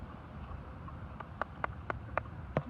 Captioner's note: offers round of applause